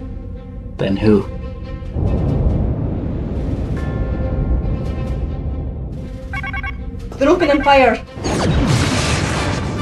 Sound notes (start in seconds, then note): 6.3 alarm